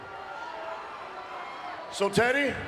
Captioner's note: crowd cheering